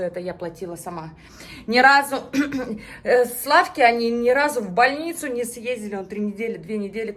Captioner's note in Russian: откашливается